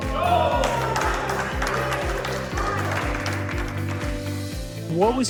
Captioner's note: cheering